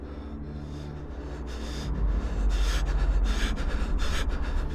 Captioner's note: both panting